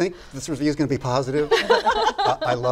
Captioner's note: laughter